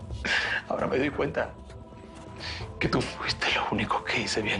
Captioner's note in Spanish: Solloza